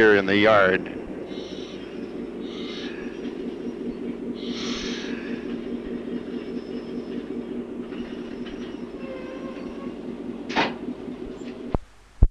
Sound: sound of the train moving

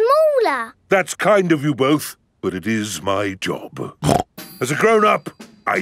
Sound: snorts

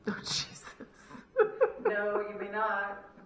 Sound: laughter

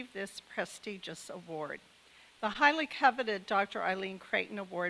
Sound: none

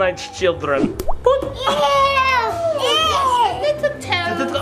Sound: finger plops

